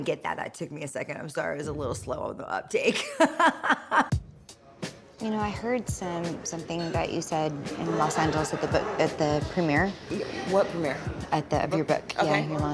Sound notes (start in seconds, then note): 3.2 laughs